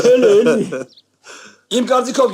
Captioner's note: haha